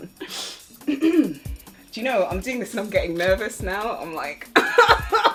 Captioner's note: clears throat; nervous laughter